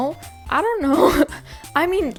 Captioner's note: laughs